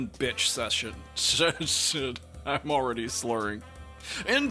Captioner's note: laughs